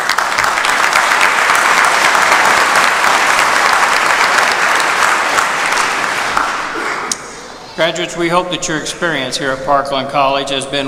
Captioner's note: applause